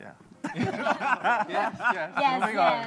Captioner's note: laughter